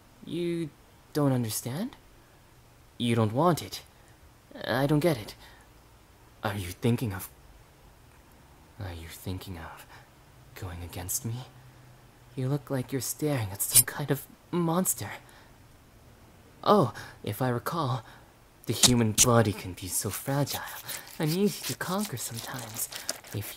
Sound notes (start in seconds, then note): 13.7 blade shinks; 20.6 wet thump, rending